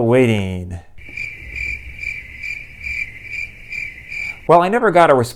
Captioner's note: crickets